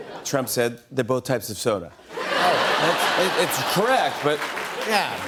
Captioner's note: laughter